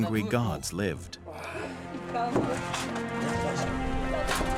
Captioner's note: men straining